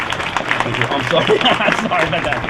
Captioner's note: applause